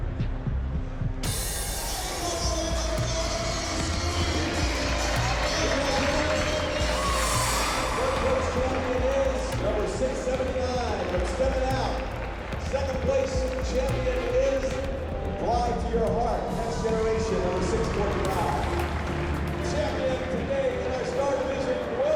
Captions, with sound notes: [cheering] Four place champion is number 679, from Stepping out. Second place champion is "Fly to Your Heart," Next Generation, number 645. Champion of today in our small division